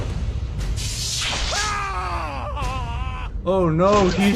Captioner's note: screams of pain